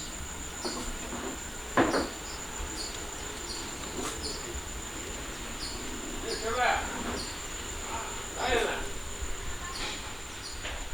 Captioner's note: birds chirping, and indistinct voices talking